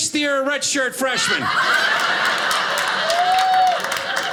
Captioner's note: audience laughing